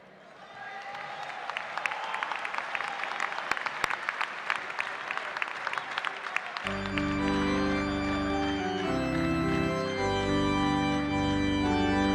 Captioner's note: cheers and applause